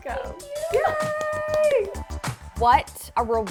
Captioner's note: cheers